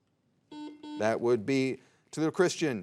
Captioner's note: soft beeping